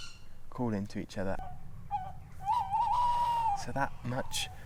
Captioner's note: hooting